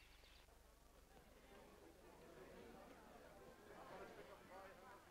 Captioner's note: people chatting faintly